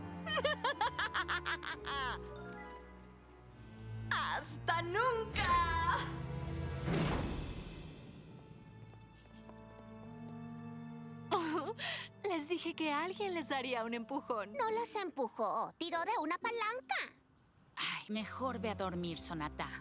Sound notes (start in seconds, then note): 0.2 evil laugh; 6.8 slam